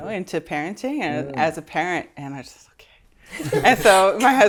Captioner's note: whispers; laughter